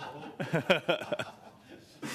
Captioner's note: laughter